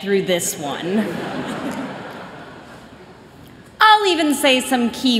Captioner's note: laughter